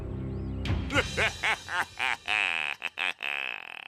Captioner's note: laughs evilly